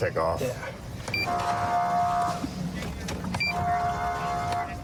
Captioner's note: horn blaring